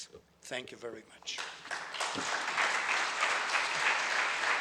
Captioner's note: audience applauds